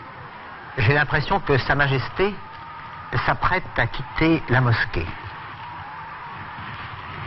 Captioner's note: applause